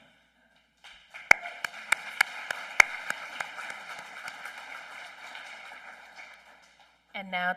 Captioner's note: applause